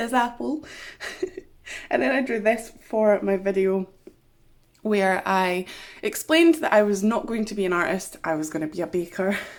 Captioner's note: laughs